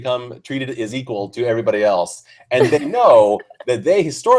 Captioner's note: laughs